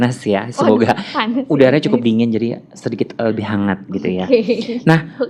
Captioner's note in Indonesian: laugh